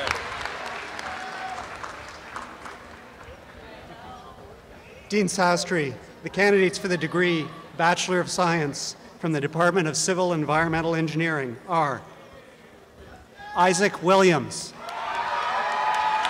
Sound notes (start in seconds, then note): 3.0 crowd murmurs